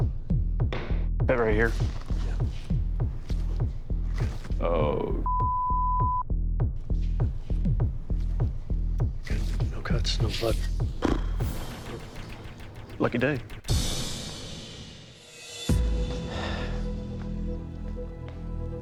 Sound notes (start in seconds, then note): 10.9 raspberry; 15.9 sigh; 16.2 dramatic music